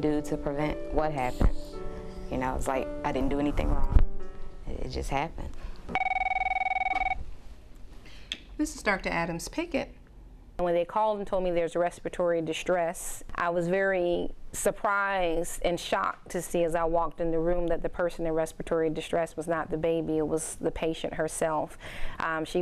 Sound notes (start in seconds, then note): 5.9 phone ringing